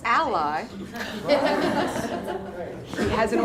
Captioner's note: laughter